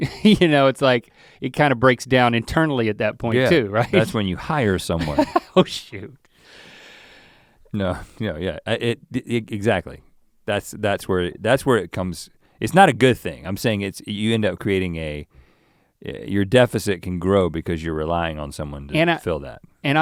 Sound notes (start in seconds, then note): 0.2 chuckles; 5.0 chuckles